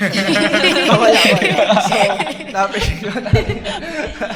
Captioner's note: laughs